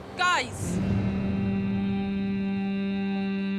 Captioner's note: low rhythmic humming and vocalisations